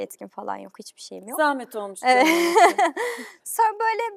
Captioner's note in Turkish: kahkaha